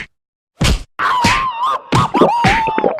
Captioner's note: Tom and Jerry Scream Sound Effect; gulping